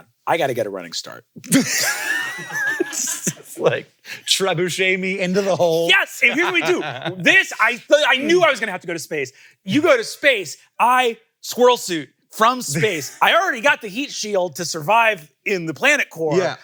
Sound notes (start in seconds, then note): 1.5 all laugh